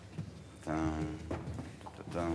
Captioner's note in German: Brummen